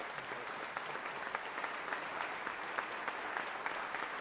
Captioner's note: members clapping